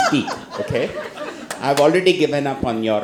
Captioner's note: all laugh